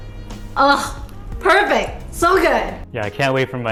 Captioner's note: scoffs